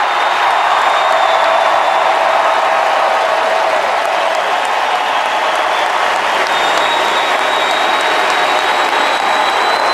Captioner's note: applause